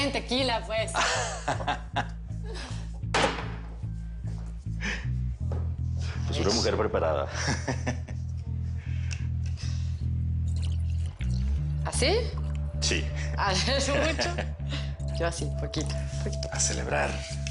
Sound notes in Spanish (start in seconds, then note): 2.3 El ríe; 3.1 Portazo; 11.7 Ríe; 13.9 Risas